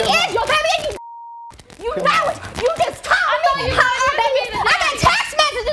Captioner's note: beep